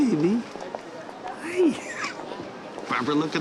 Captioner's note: chuckles